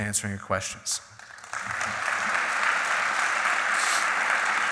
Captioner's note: applauding